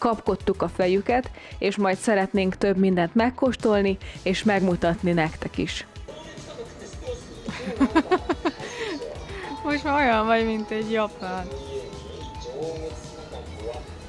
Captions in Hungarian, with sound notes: kapkodtuk a fejüket, és majd szeretnénk több mindent megkóstolni és megmutatni nektek is. [Nevetés] Most már olyan vagy, mint egy japán.